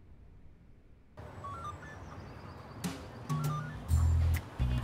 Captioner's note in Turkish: Telsiz sesi